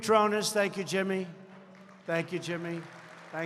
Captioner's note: applause